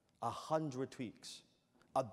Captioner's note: none